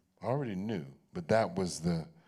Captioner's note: none